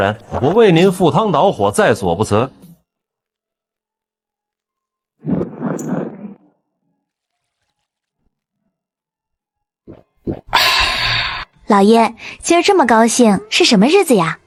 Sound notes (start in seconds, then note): 10.6 gasp